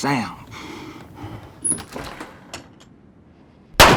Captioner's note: gunfire